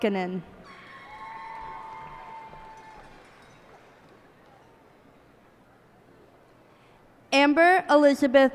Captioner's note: cheers and applause